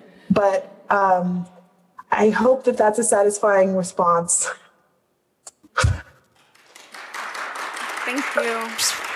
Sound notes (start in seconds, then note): 6.3 applause